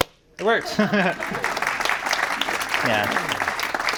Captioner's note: audience applause